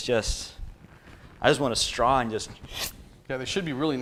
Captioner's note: slurp